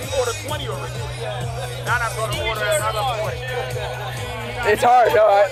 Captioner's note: attendees chatting indistinctly